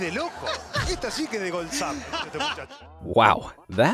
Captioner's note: commentator laughs